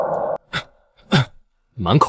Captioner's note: cough